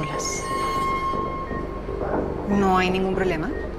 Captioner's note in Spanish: Pitidos